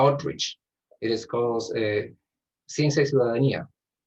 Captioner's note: speaking Spanish